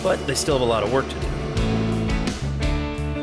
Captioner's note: machine whirs